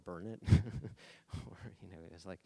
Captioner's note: laughing